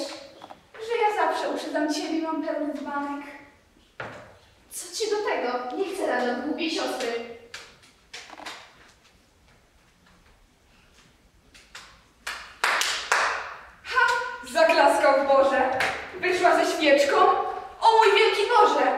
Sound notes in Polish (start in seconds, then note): 9.3 Słychać klaskanie za chatą